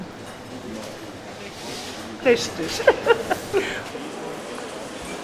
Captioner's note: laughs